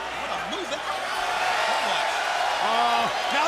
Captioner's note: crowd cheering